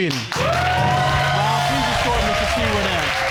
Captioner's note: audience applauding